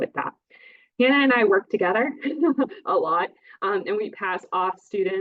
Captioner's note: laughs